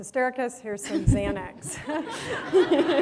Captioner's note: laughter